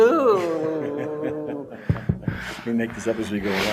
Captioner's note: laughter